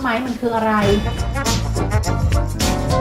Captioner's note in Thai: เสียงเอฟเฟกต์